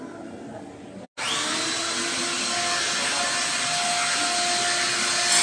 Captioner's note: machine whirling